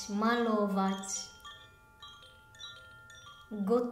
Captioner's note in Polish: dźwięk dzwonków